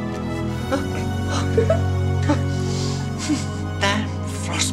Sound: laughing

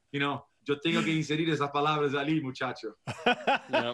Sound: speaking foreign language

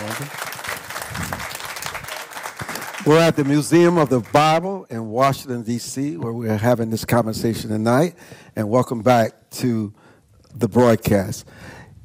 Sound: applause

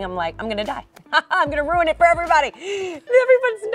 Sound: laughing

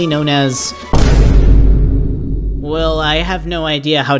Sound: Vine Boom Sound Effect

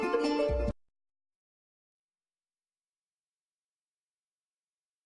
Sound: silence

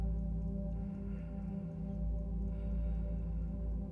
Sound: breathe

